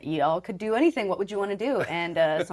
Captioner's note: chuckling